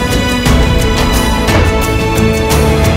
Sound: door closes

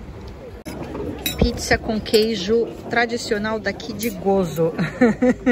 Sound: laughs

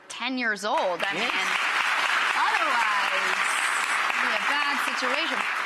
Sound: audience applauding

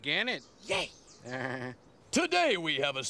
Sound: Armstrong chuckling

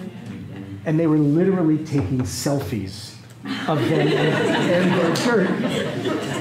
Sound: laughter

